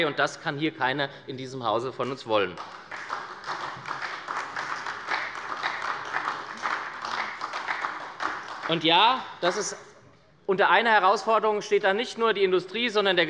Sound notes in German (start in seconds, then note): 2.5 Beifall bei der SPD